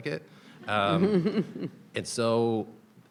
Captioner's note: people laughing